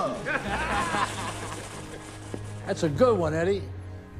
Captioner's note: men laughing